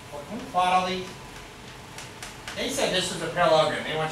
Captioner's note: speaks softly